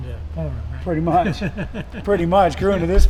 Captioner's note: Richard chuckling